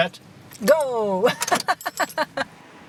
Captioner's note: laughs